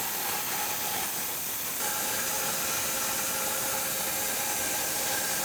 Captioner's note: saw humming continues